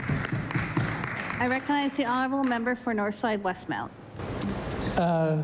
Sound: applause

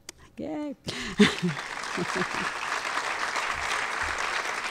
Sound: audience applauds

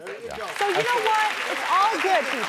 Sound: audience applauds

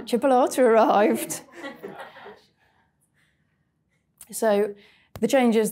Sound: audience laughing

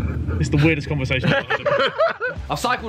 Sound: group laughs

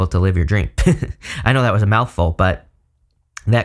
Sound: giggling

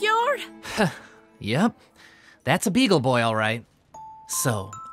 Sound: sighs; thoughtful music playing

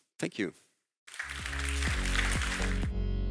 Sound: audience applauds; upbeat music

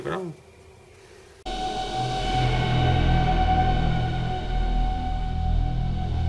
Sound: strange sci fi background sound

